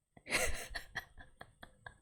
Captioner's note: laughs